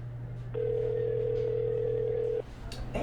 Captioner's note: phone ringing